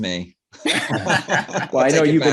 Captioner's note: laugh